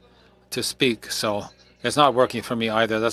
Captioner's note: speaking french